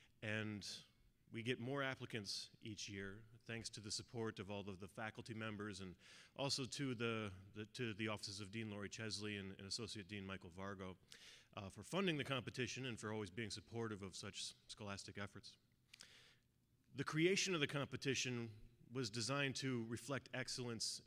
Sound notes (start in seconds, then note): none